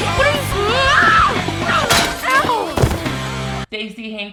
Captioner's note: screams and thud